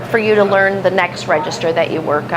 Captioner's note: machine sounds again